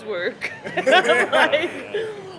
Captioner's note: laughs